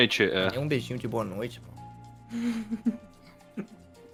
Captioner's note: rambling; chuckles